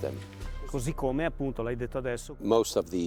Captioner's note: speaking French